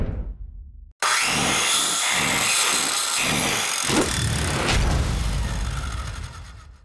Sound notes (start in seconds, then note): 1.0 whirring; 4.0 whoosh